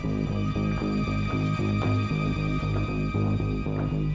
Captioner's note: none